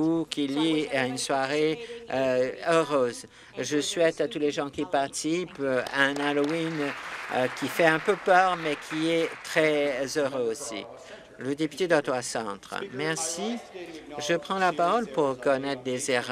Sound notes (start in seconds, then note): 10.6 applause